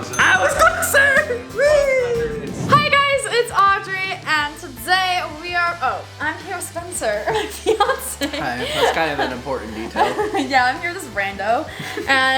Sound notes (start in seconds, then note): 7.1 laughs